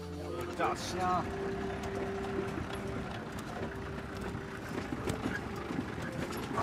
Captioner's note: jeep engine humming; hunters chattering